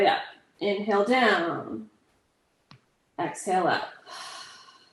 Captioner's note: exhales